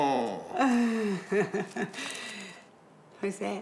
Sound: chuckles

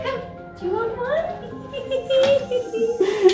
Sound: laughs

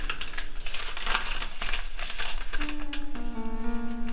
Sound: paper crinkling

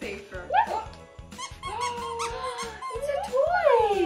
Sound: toy squeaks

